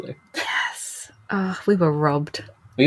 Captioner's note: whispers